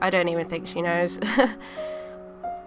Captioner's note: laughing